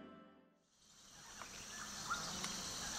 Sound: jungle ambience

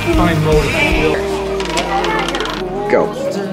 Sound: excited chatter

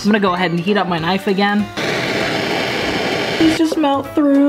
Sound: blowtorch

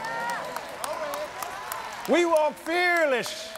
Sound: applauds

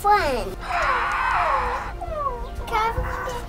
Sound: growls

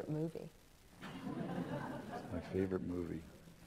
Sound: laughter

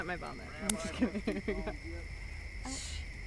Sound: laughter

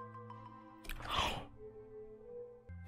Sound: gasp

